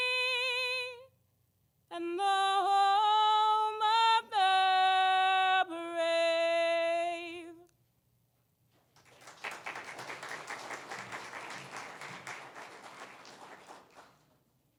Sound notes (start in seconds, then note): 8.9 applause